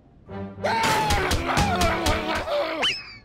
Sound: upset growling

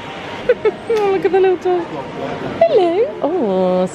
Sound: laughs

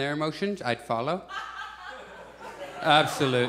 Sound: audience chuckles

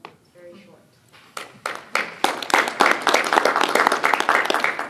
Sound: applause

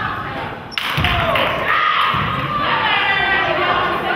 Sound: crowd claps

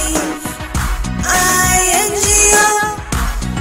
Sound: clap

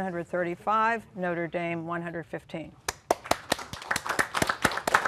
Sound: applause

